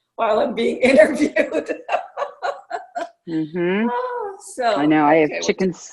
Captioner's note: laughter